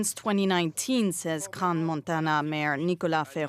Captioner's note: speaking alternate language